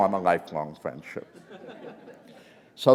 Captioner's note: laughter